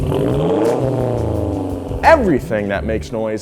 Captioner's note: engine revs